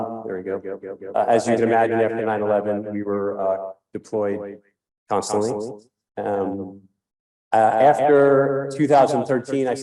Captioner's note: echoing